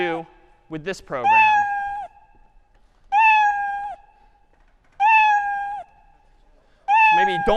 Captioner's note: cat meowing